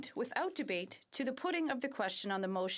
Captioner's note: speaking French